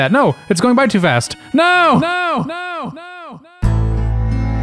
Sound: echoing; dramatic music plays

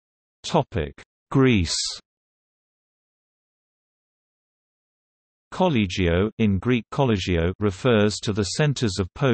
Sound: in Greek Κολλέγιο

